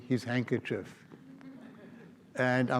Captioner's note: audience laughs